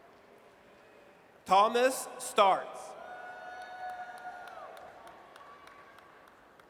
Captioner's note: audience cheers